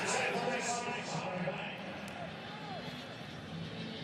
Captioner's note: pa announcement